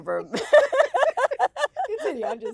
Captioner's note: both women laughing